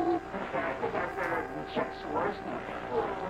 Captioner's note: hijacker speaks faintly